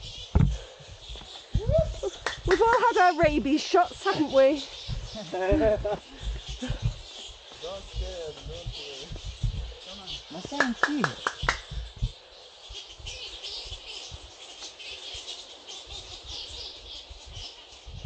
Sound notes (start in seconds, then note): 0.1 bats chattering; 5.1 laughing; 10.5 clapping; 13.1 bats chatterig